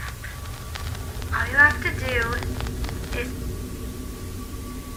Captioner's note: Static